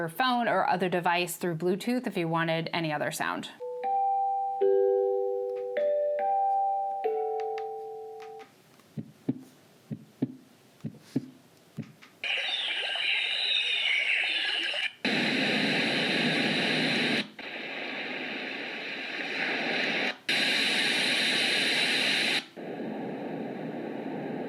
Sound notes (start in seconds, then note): 4.2 white noise sounds